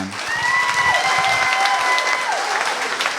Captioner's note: cheering and applause